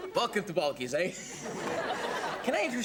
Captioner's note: audience laughing